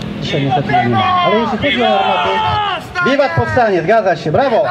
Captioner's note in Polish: Powstańcy wiwatują